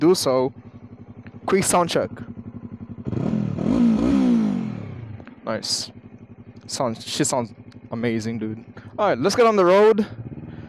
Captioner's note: exhaust Sound